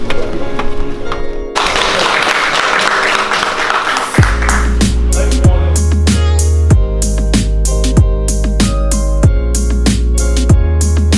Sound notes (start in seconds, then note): 1.5 applause